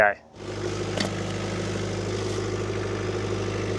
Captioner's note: machine rumbling